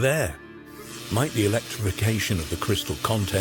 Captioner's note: electricity buzzing